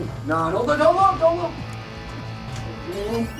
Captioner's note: voiceover